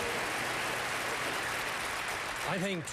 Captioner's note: applause